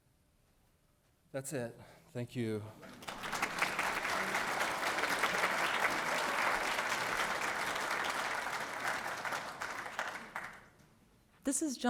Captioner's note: audience applauding